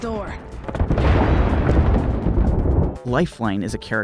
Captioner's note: explosion sounds